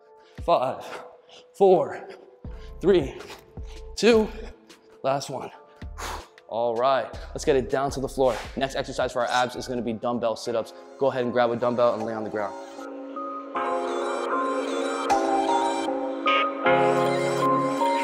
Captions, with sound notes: Five, four, three, two, last one (exhales loudly). All right, let's get it down to the floor. Next exercise for our abs is gonna be dumbbell sit-ups. Go ahead and grab a dumbbell, and lay on the ground. (mellow hip-hop music)